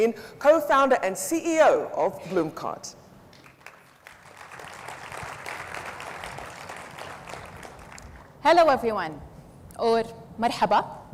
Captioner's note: audience applauds